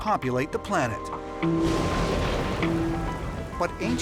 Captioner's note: thunder rumbling